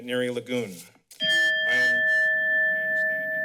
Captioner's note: bell rings